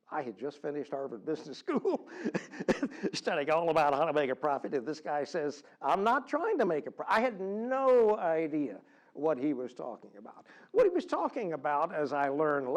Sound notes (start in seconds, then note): 1.9 laugh